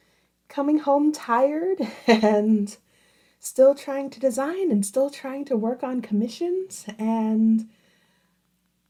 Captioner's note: giggles